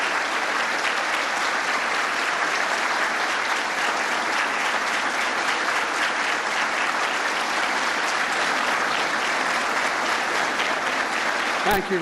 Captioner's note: applause